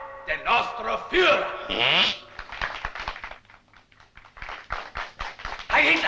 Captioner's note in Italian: PERNACCHIA E APPLAUSl